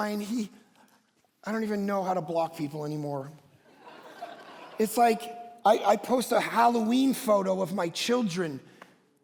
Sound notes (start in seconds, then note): 3.7 congregation laughs